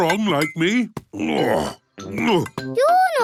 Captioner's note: grunts